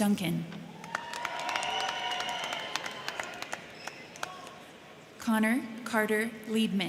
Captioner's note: crowd cheering; crowd clapping